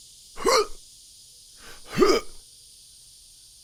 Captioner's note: Johnny grunting